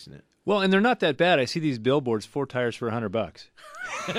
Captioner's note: laughs